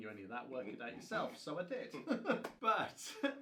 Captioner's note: both men laughing